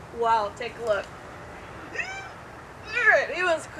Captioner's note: strained grunt